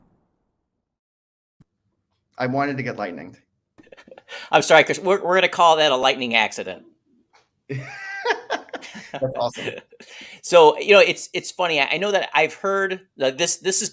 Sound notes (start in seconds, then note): 3.8 laughs; 7.7 both laughing